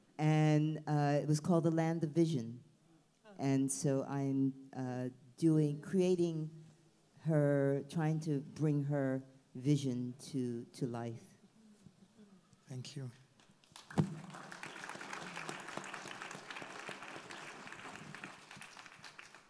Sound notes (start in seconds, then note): 13.4 audience applauds